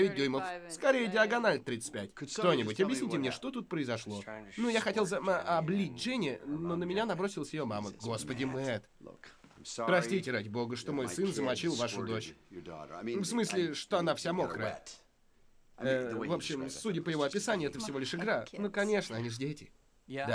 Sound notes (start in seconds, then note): none